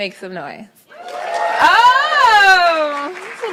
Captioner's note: cheers loudly; applauds